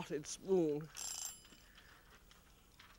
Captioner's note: timer rings